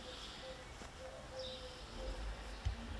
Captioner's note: birds chirping